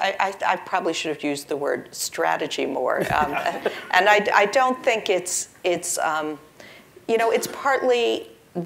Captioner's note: laugh